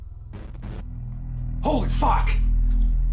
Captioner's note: glitch